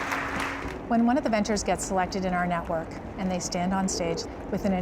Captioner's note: cheers and applause